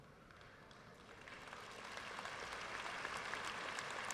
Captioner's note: audience applauding